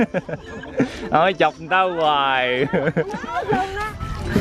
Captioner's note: laugh; laugh